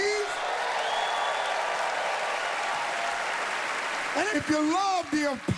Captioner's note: cheering and applause